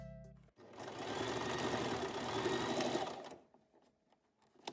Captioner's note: sewing machine noise